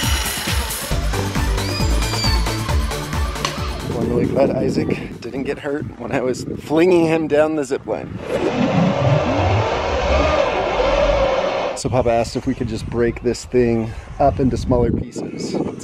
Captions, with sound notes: (screams) One really cut Issac. He didn't get hurt when I was flinging him down the zip line. So Papa asked if we could just break this thing up into smaller pieces.